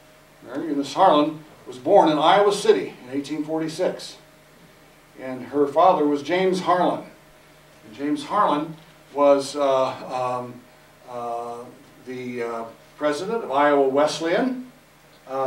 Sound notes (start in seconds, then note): none